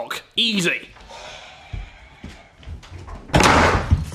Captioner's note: thuds on the door